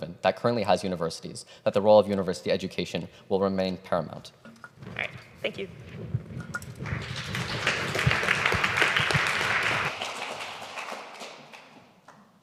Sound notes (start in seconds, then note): 6.7 audience applauding